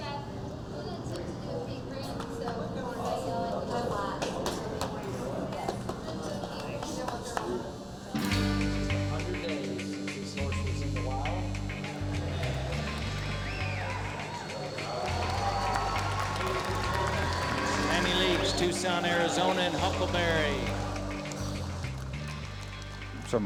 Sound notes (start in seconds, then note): 12.0 cheers and applause